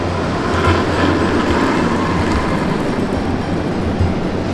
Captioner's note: curling stone roaring